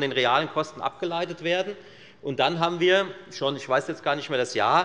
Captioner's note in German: none